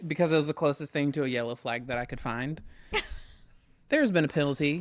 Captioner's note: laughs